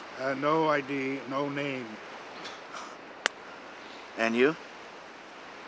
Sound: Ranger chuckles

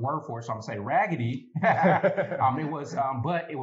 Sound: laughter

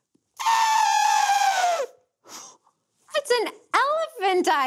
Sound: trumpeting

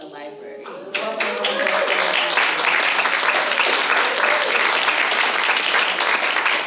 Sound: applause

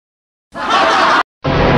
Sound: laughter

